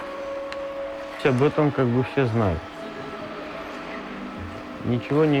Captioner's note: citizen speaking in Russian